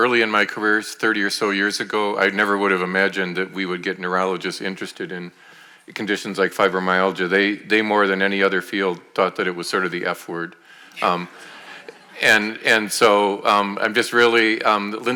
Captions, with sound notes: Early in my career, 30 or so years ago, I never would have imagined that we would get neurologists interested in conditions like fibromyalgia. They more than any other field thought that it was sort of the F word. (audience laughing) And so, I'm just really...